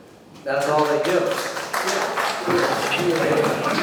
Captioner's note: audience clapping